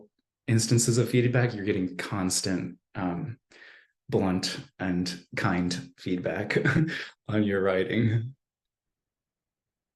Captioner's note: chuckled